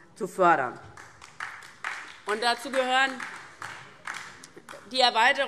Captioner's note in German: Beifall DIE LINKE